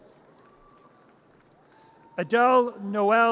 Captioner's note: audience cheers